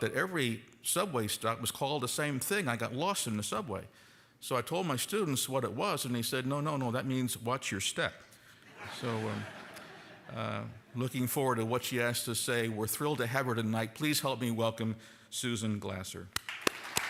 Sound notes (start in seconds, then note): 8.7 audience laughing; 16.3 applause